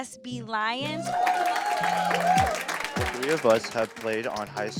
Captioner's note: audience cheering